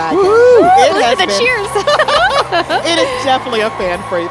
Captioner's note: laughing